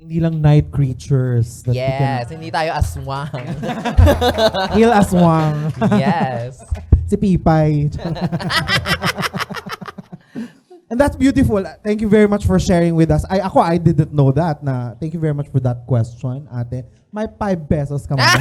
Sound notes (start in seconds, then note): 3.0 applause with laughter; 8.0 laughs; 18.2 laughs